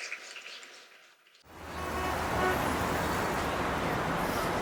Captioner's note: traffic sounds